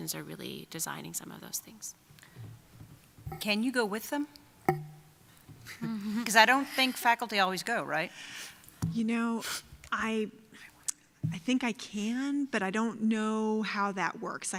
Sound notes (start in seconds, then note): 5.8 chuckling